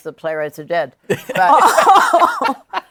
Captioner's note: laughter